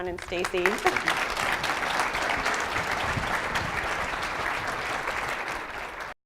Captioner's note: audience clapping